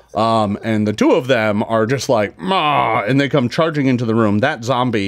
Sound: roars

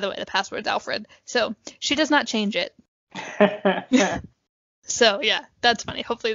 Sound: laugh

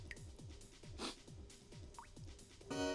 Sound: sniff

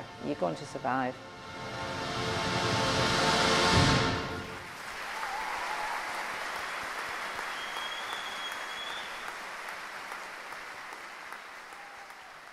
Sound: audience applauds and whistles

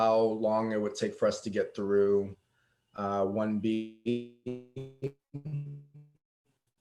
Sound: electronic distortion

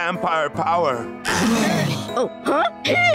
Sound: moaning

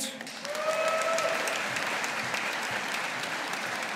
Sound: audience applauding

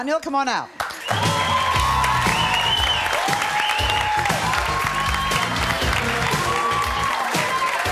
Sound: upbeat music; audience cheering

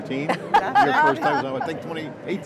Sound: women laugh

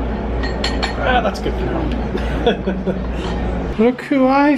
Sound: laughs

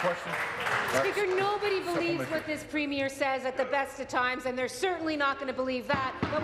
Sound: applause

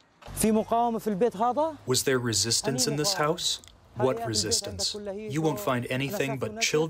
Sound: through translator

